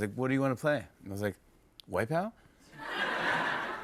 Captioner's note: laughter